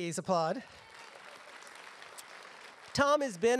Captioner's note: applause